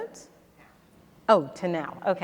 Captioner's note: faintly speaking